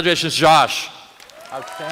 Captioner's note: applause